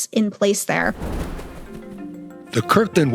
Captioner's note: screen whooshes; calm music